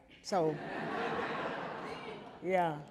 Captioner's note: audience laughing